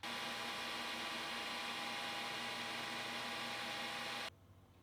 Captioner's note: lathe whirring continues